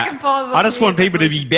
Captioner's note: speaking faintly